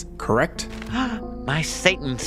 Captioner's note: gasp